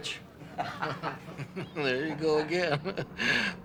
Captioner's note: laughing